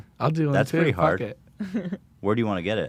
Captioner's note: laughs